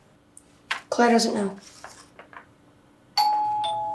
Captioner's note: doorbell